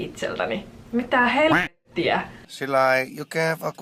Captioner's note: quack